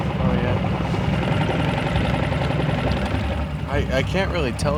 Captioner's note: boat engine roaring